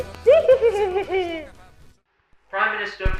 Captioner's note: questionable laughter